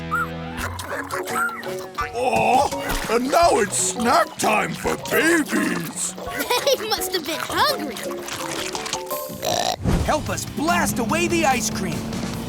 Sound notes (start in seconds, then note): 1.2 babies squeaking; 6.2 munching; 9.0 burps